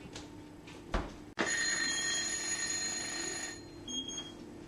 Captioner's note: timer rings